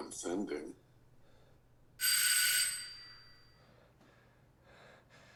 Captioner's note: doorbell rings